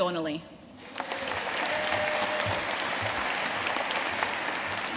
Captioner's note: audience applauding